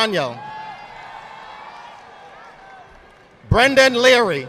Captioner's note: audience applauding